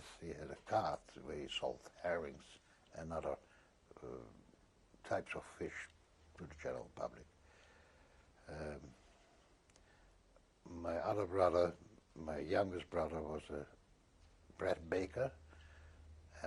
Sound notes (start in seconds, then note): 7.3 pauses for 3 seconds